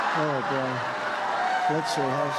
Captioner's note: applause